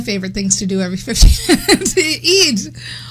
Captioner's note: laughs